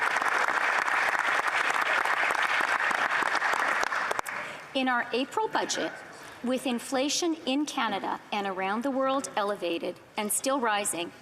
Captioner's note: applause